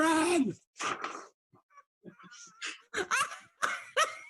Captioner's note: laughing